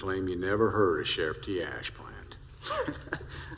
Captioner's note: chuckles